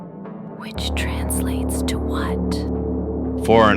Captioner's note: whispers